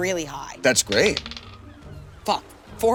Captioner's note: die rolling